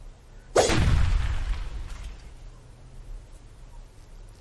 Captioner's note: swords whooshing